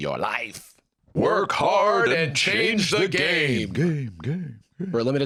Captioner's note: echoing